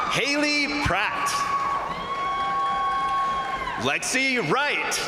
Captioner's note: crowd cheering; crowd applauding